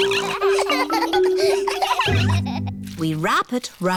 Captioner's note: snorts; all laughing